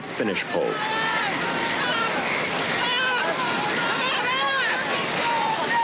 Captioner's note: shouting